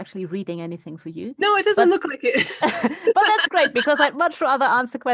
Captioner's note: laughing